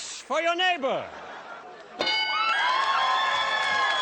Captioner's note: bell